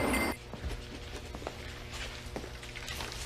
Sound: none

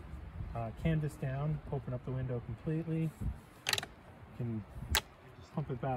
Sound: magnets click

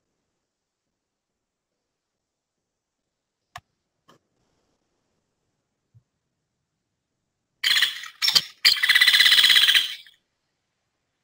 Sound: sound effect

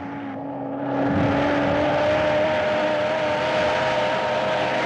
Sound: Jeep Approaching

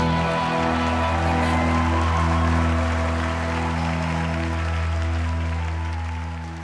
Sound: congregation cheering and clapping

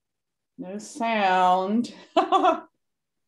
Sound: laughing

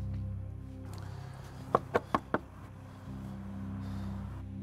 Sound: door knocking

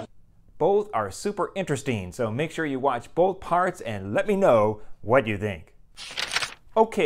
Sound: page turn

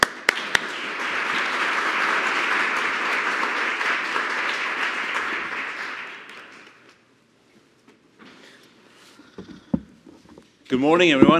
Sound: applasue

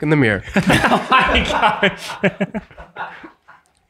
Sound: all laughing

